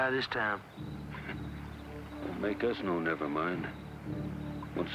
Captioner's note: scoffs